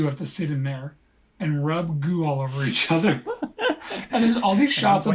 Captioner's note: laughs